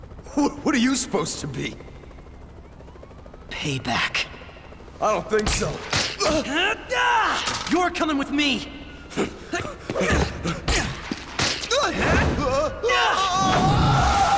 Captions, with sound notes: What are you supposed to be? Payback. I don't think so. [YELLS] You're coming with me. [YELPS] [SCREAMS]